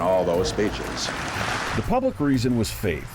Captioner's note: audience applauds